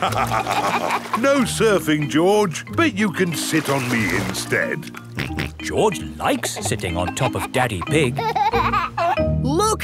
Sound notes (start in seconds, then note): 0.0 both laugh; 5.3 snorts; 8.5 giggling